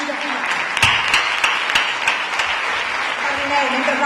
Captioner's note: applause